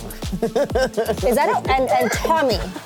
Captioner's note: laughs